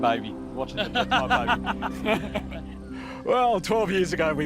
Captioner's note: all laugh